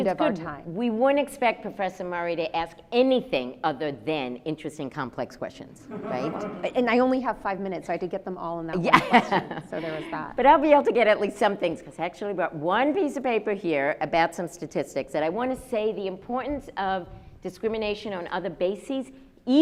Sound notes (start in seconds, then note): 5.9 audience laughs; 10.8 laughs